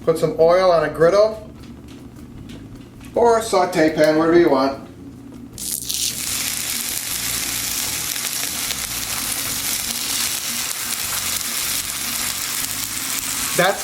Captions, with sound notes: Put some oil on a griddle, or a saute pan, whatever you want. (polenta sizzles)